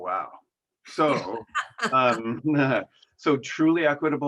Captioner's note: laughs